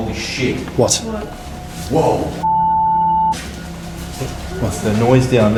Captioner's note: beeping